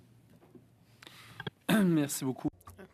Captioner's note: speaking French